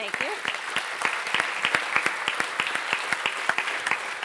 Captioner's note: audience claps